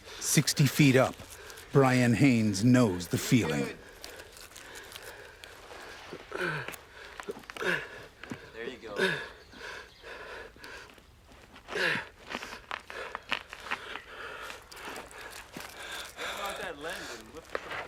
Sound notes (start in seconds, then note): 0.0 heavy breathing